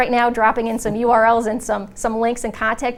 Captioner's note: laughs